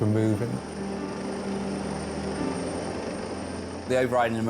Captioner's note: helicopter whirring; soft music